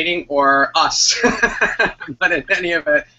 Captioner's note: laughs